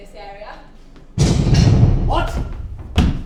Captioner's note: multiple doors locking